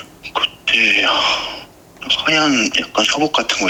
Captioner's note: sigh